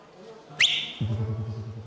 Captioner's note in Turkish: Islık çalıyor